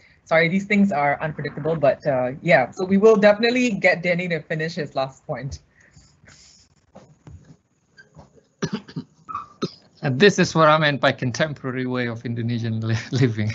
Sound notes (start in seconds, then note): 8.5 coughs